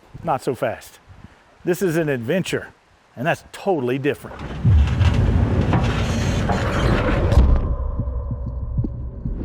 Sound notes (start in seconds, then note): 4.5 loud bang